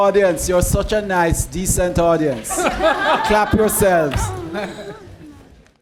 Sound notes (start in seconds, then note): 2.3 laughter